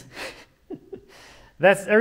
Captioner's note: chuckling